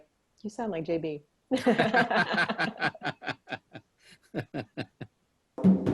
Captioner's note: laugh